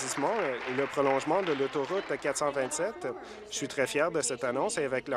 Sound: applause

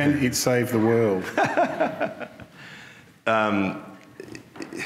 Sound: laughs

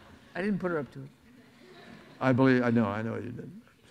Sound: audience laughs

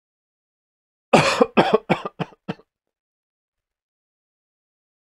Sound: sound of coughing

